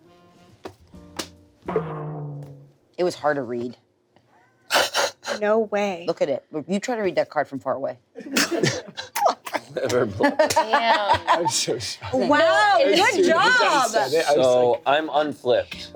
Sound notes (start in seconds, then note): 9.3 everyone laughs